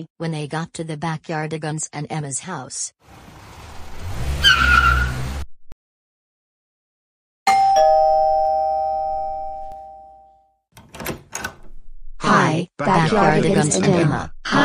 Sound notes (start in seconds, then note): 7.4 doorbell rings; 10.7 door opens